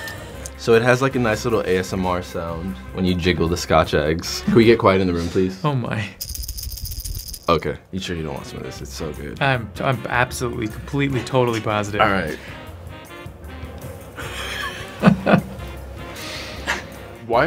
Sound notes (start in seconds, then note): 6.2 rattle rattling; 13.1 melodic upbeat music; 14.1 Jake laughing